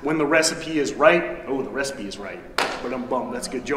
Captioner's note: claps